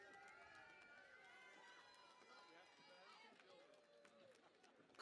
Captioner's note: cheering and Applause